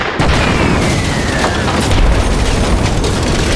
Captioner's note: explosion